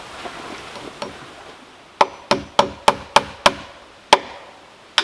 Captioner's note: hammer thumping